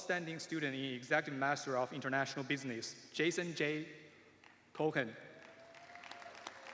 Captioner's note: applause